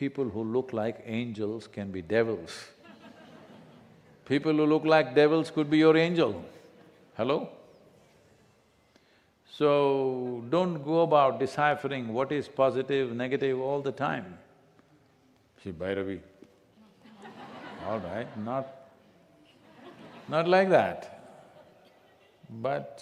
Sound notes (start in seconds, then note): 2.8 few laugh; 16.8 laughter